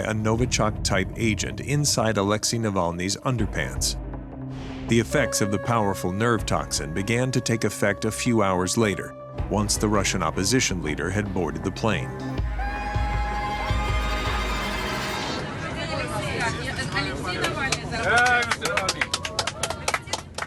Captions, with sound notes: a Novichok-type agent inside Alexei Navalny's underpants. The effects of the powerful nerve toxin began to take effect a few hours later, once the Russian opposition leader had boarded the plane. [chatter] [applause]